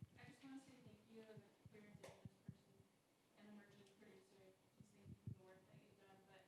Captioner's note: speaking faintly